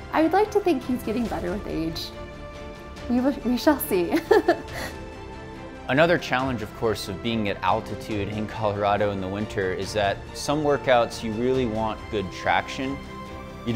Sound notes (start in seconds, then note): 4.1 giggling; 4.8 mid tempo music